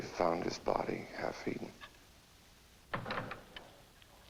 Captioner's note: door opens